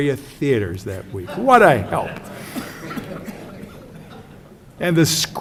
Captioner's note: audience: Laughs